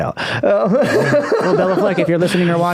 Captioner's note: laughing